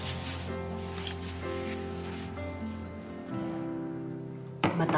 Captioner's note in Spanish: Susurra